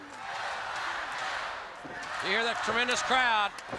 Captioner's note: crowd cheering